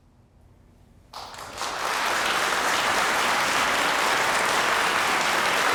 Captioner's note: audience applauding